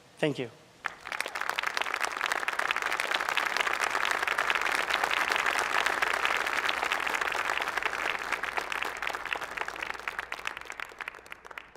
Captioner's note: applause